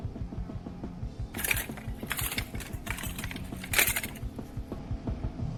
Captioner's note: object rattles